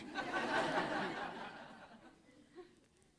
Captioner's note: laughter